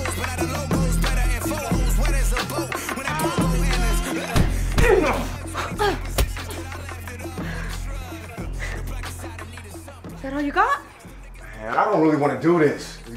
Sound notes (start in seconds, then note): 4.9 Charles grunting; 6.2 blow landing